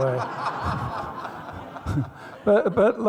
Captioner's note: laughing